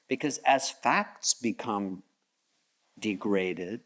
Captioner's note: none